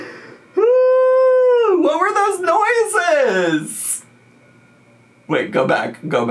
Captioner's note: laughs